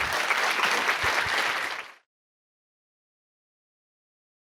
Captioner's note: applause